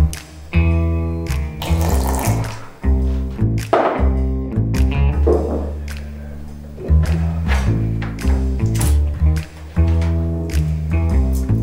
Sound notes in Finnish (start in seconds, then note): 1.6 kahvi lorisee